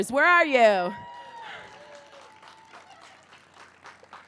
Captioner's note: cheering